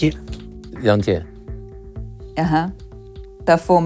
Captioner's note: speaking in foreign language